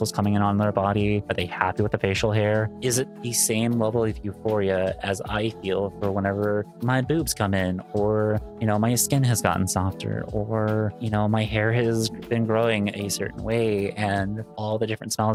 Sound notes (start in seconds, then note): none